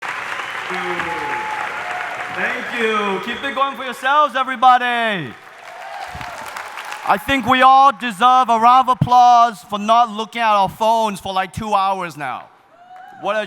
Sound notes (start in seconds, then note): 0.5 audience cheering